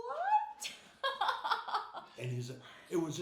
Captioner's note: laughing